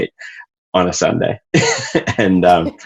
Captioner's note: laughs